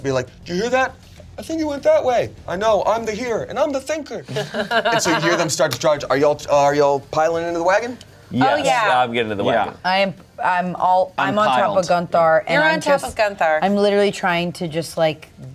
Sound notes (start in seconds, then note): 4.3 everyone laughs